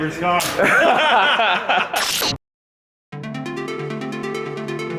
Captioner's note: all laughing